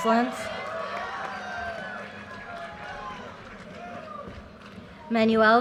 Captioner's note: audience cheers and applause